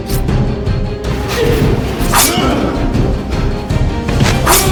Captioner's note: Chris grunts; knife slices; Chris grunts; knife slices